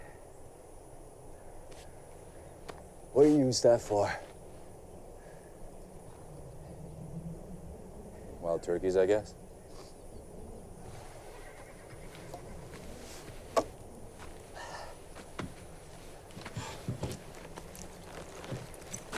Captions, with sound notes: What do you use that for? Wild turkeys, I guess. [ Sighs ]